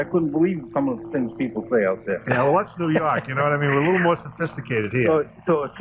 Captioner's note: laughter